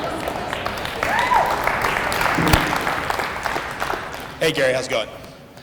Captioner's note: audience laughter and applause